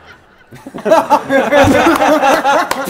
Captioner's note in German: Schallendes Lachen